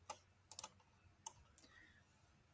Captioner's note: mouse clicks